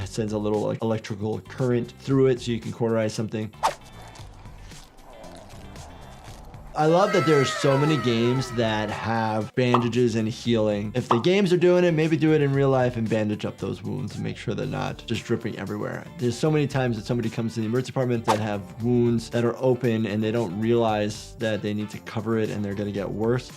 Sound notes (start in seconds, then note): 3.8 mutants growling faintly